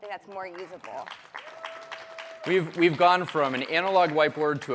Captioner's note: applause